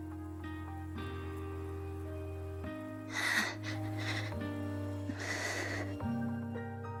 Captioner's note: guitar music; panting